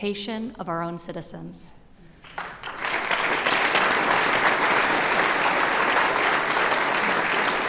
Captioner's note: applause